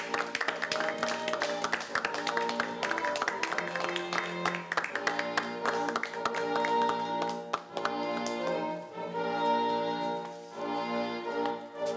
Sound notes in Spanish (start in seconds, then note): 2.0 aplausos